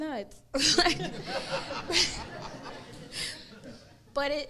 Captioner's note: crowd laughs